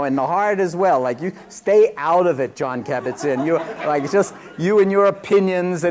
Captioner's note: laughter